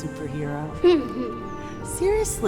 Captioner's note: Bryan laughs